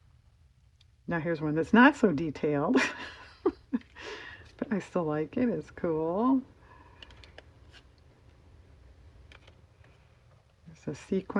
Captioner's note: laughs